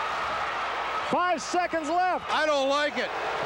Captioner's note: loud cheering